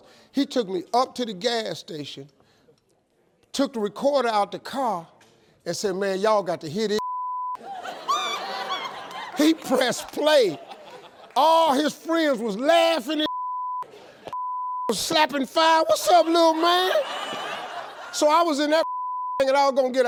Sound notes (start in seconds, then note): 7.6 audience laughs